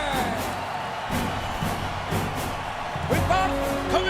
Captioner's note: audience cheers; upbeat music